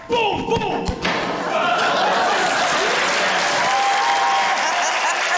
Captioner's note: thud!; laughter, cheering, applause